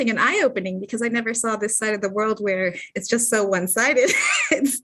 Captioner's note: laughter